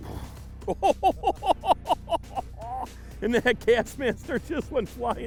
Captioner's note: laughing